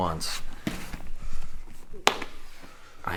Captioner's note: gentle tapping